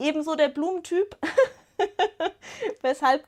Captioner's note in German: Gelächter